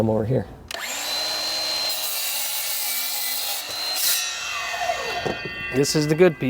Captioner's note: sawing